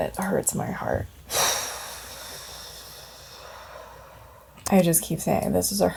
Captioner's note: exhales audibly